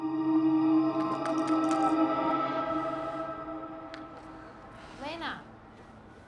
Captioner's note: bottle clattering